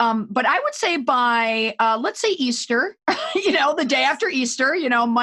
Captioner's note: laughs